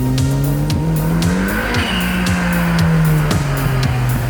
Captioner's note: engine revving